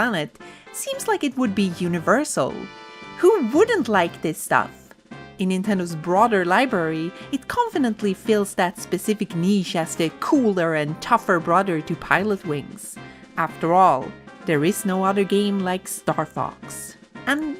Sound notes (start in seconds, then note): none